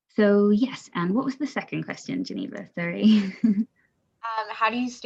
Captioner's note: laughs